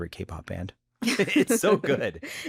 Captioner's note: chuckles; laughs